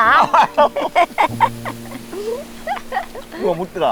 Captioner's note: both laughing